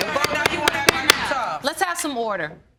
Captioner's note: all arguing; banging gavel